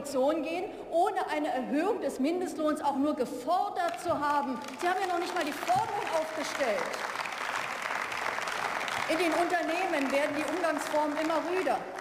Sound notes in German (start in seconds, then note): 4.4 Beifall